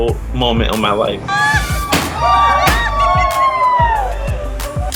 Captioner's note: joyful cheers